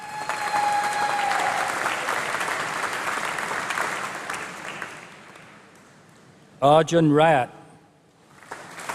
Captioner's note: applause; applause